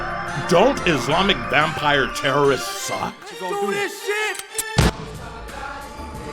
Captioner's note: yelling